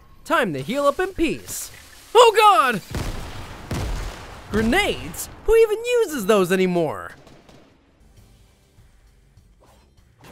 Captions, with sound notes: Time to heal up in peace. Oh god! (loud bangs) Grenades? Who even uses those anymore?